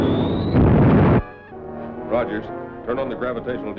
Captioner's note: explosive booming